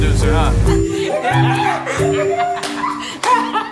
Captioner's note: laughter